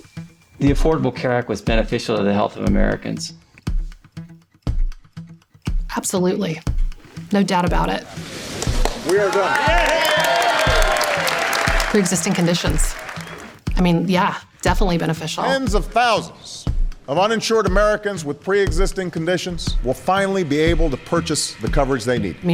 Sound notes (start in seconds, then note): 9.0 cheering